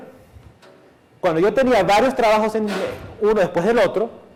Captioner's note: chair creaks